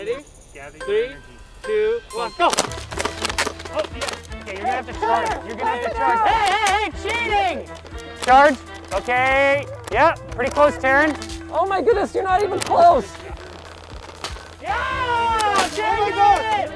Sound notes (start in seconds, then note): 2.5 water gun shooting